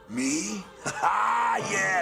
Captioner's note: crowd cheering